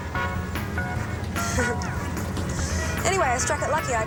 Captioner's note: laughs nervously